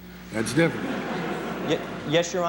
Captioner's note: laughter